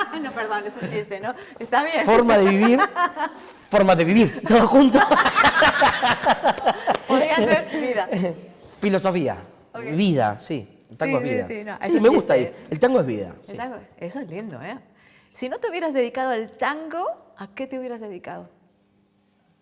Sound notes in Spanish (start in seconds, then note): 4.9 más risas